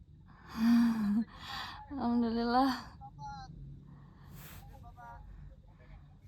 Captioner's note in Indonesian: menghela napas; terkesiap